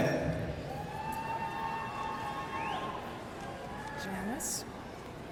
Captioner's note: audience cheering